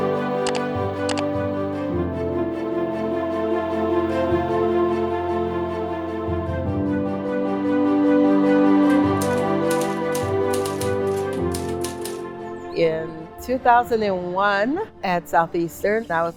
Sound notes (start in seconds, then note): 8.7 emotional orchestral music; 8.8 typewriter noise